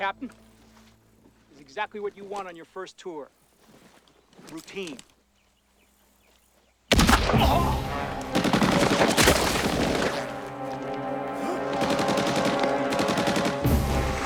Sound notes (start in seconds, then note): 6.9 shot Fired; 7.0 machine Gun Fire; 11.7 machine Gun Fire